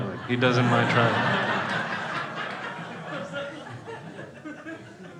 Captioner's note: crowd laughing